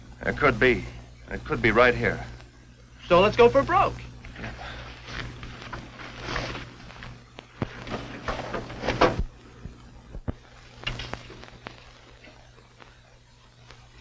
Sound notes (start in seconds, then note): 5.0 footsteps thudding; 7.7 metal clunking